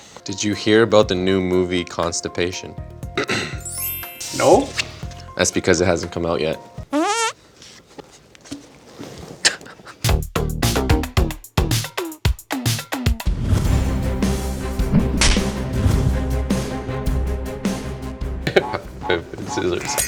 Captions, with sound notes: - Did you hear about the new movie constipation? - No. - That's because it hasn't come out yet. (laughing) (intense music) - Rock, paper, scissors, shoot.